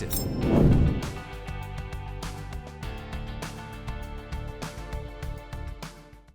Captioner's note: air whooshing; inspiring music